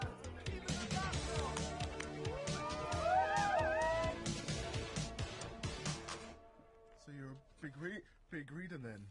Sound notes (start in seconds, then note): 1.3 crowd cheering intensifies